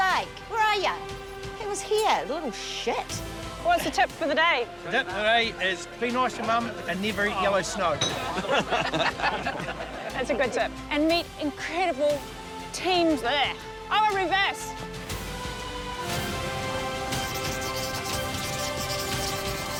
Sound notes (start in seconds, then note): 7.9 others laugh; 16.3 majestic music; 17.1 pen scratches